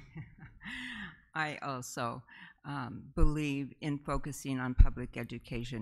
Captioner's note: laughs